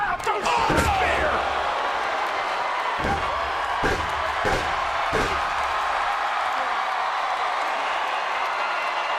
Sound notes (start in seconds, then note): 2.0 crowd cheering; 3.0 feet stomping